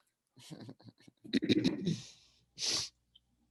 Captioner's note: laughing